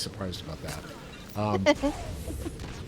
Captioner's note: laughing